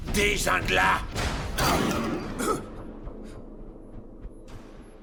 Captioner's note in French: tirs d'armes à feu; la musique intense continue